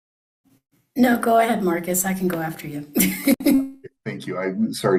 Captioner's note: laughs